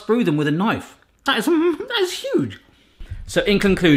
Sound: laughs

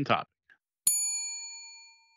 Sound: bell dings

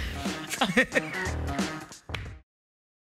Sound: laughs

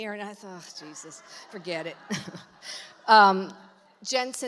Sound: congregation laughs

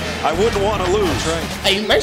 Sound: voiceover

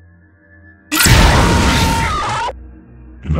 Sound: Mangle screaming

